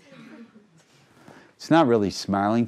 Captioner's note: crowd laughing